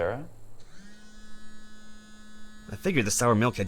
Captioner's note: buzzing sound